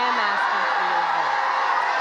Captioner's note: crowd cheers